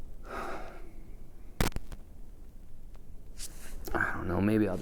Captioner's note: Pete sighs